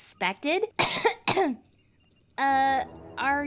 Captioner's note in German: hust